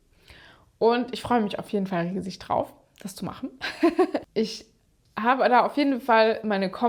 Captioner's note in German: gelächter